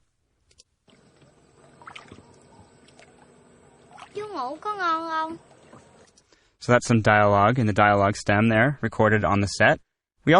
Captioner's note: vietnamese dialogue